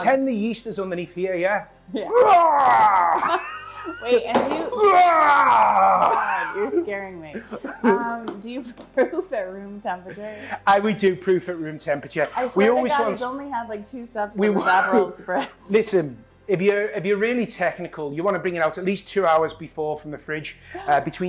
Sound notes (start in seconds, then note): 2.0 laughs; 2.8 chuckles